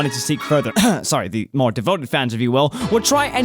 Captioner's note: cough